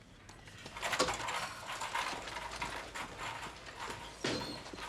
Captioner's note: cart clattering